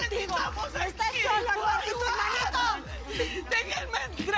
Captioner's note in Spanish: Gritan al unísono